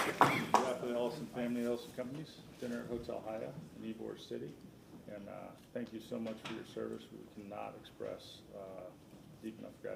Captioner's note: applause